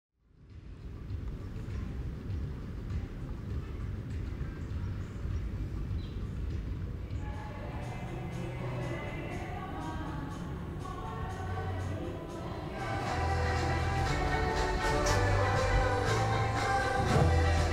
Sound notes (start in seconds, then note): 1.6 music playing on the radio; 7.2 chatter